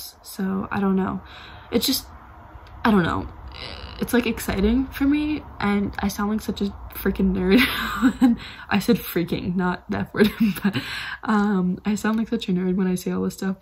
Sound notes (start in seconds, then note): 7.5 laughs; 10.2 laughs